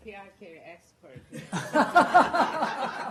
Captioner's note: laughter